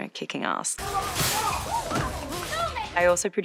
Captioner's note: customer groans